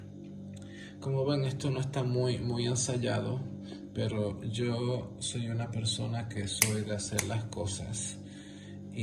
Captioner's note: snap fingers